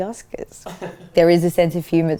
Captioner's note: laughs